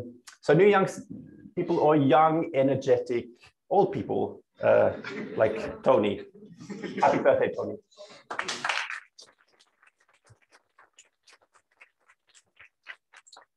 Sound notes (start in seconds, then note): 8.2 applause